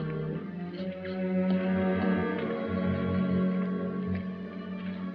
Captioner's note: footsteps